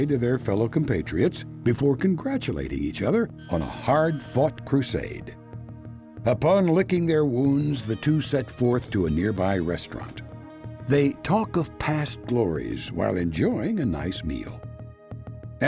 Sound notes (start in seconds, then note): none